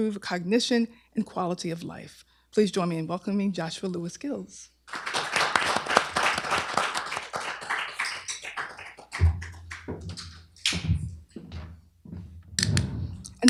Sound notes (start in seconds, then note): 4.8 applause